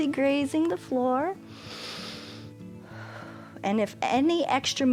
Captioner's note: inhales and exhales